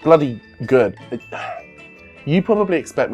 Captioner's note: sigh